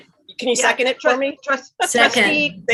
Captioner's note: laughs